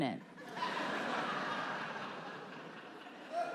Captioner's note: audience laughs